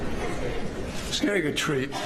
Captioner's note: laughter